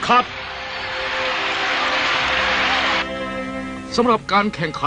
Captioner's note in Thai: ปรบมือ